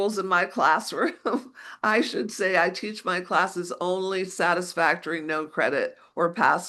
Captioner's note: chuckles